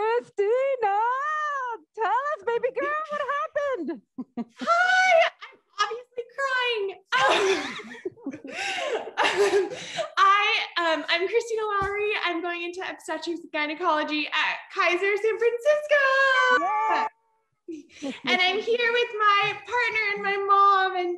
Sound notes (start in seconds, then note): 7.2 laughing; 16.5 cheering